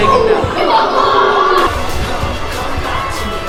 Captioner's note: excited exclamations